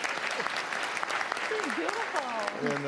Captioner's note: applause